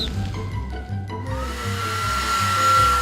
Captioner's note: hair dryer whirring